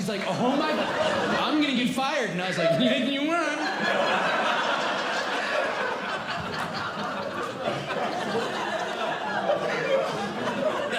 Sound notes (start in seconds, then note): 1.7 speaks as if deaf; 3.4 audience Laughing